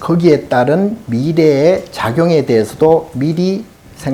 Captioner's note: speaking Korean